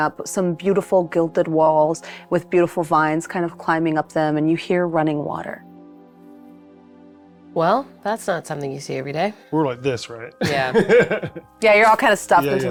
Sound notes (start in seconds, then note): 10.4 laughs